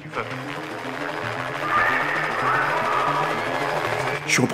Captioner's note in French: bruit d'intervention de police